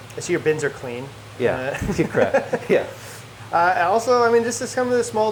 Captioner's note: laughs